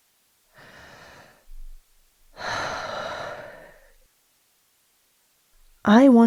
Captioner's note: deep breath